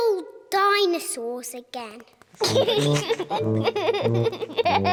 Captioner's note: giggling